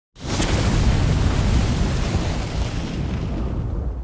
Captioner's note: fire blasting